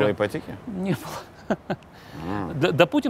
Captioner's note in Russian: с усмешкой